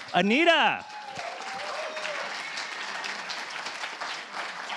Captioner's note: applause